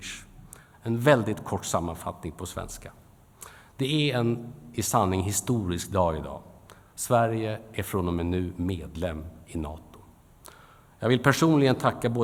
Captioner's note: in Swedish; in Swedish